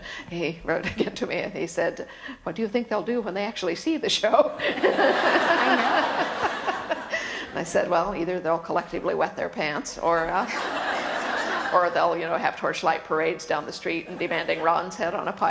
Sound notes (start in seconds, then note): 4.6 laughter; 10.4 laughter